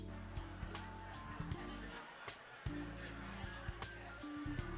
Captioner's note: audience chattering